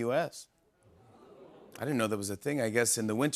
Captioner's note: audience oohs